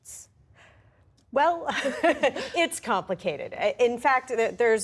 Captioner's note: laughter